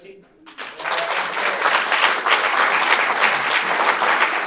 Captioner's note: audience applauds